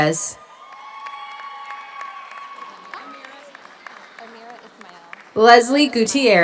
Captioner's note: audience cheers; audience applauds